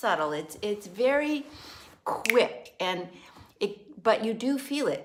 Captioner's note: snaps finger